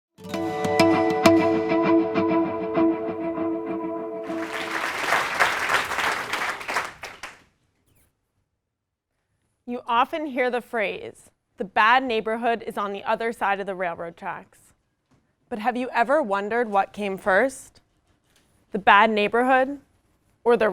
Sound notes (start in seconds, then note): 4.2 applause